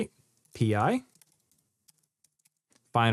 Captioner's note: keyboard clicking